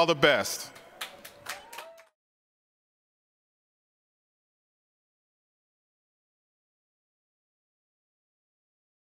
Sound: applause

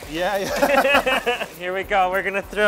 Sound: both laughing

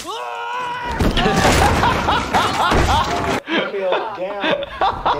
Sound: stuntman calling out; shouting; laughing

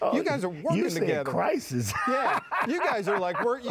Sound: laughs

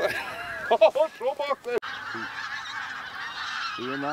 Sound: giggles

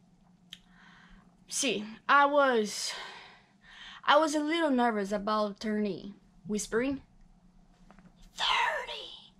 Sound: whispering

